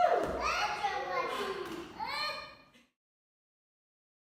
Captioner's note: children babbling